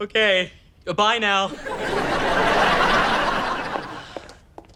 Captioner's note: audience laughter